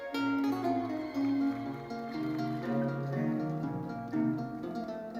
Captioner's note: audience cheering; audience applauding; bright lively music continues